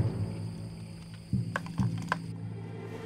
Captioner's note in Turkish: Tıkırtılar